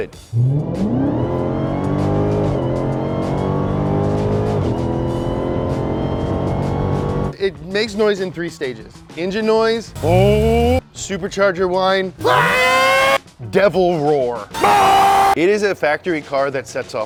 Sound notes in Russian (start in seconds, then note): 0.1 двигатель вращается; 9.9 двигатель вращается; 12.2 двигатель вращается; 14.6 рев двигателя